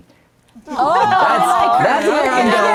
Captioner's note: guests gushing